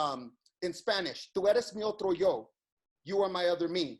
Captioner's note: speaks in foreign language